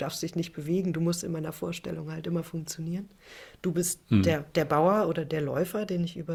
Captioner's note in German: räuspern